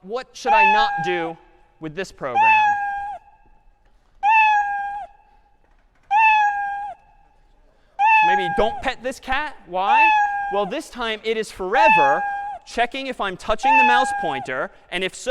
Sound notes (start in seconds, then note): 2.5 cat meowing